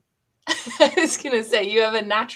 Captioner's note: laughter